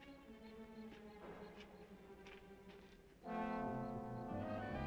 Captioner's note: insects chirping; dramatic music